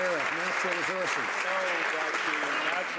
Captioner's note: some Applause